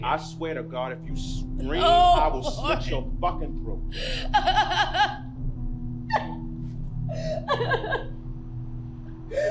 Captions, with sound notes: - I swear to God if you scream, I will slit your fucking throat. (crying)